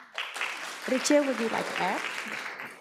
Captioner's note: audience applauds